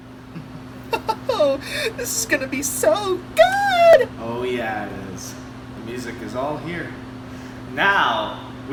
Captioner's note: chuckles